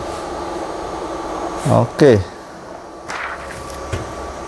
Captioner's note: PET film noise